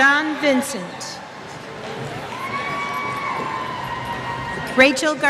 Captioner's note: cheers